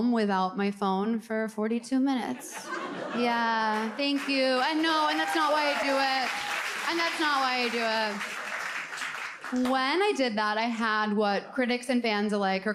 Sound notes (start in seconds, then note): 2.7 audience laughs, claps; 6.7 audience claps